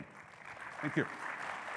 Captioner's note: audience applauds